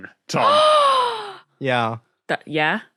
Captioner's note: gasps loudly